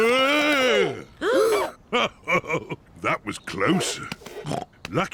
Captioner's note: all gasp; chuckles; snorts